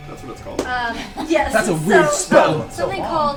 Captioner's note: laughs